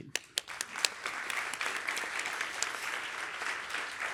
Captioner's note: applause